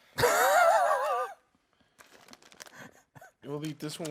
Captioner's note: laughing